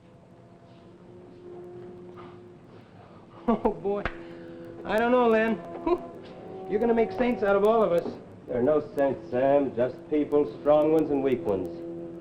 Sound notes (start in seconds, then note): 0.3 suspenseful music; 3.3 chuckles